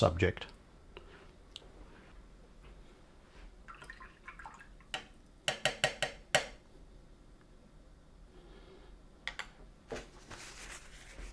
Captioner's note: silence